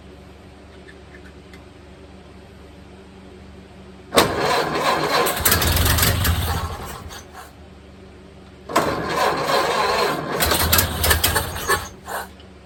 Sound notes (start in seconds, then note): 4.1 engine cranking; 4.1 engine dies; 4.1 engine sputtering/idling; 8.7 engine cranking; 8.7 engine dies; 8.7 engine sputtering/idling